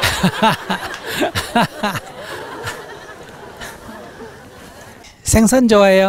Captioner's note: audience Laughter